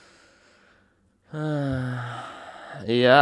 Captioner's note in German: Seufzen